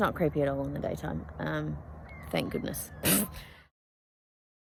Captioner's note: scoffs